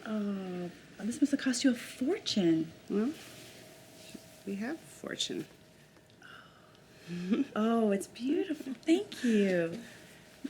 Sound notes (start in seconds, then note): 6.5 whispers; 7.2 Becky giggles